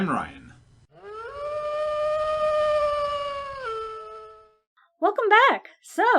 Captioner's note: wolf howl